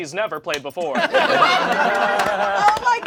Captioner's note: all laugh